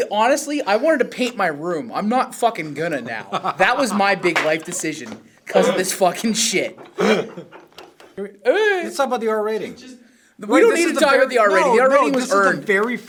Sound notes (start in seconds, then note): 3.0 laughs